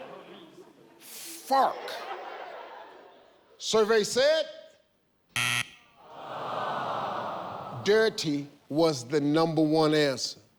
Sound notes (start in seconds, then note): 5.3 buzzer; 6.5 audience groaning